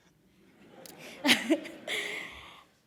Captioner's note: laughter